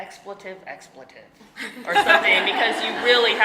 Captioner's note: audience laughing